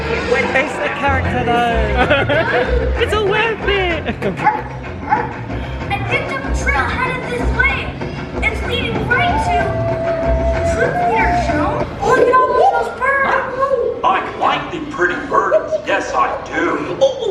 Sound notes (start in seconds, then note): 1.3 laughing